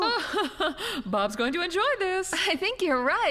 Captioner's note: laughing